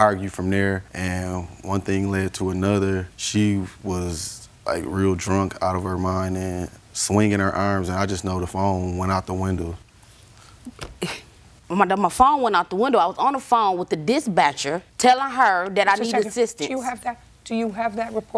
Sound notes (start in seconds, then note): 10.9 chuckles